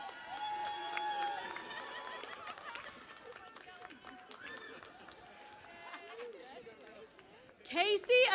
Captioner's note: cheering and Applause